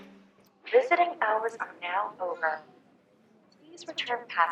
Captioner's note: female, over P.A